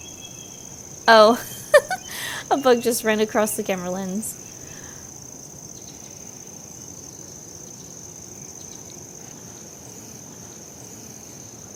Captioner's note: giggles